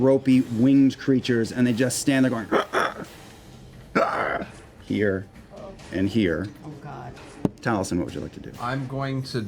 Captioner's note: raspy breaths